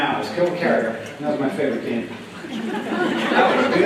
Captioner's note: laughter